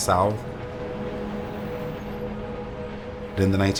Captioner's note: traffic noises